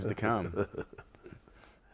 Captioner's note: laughs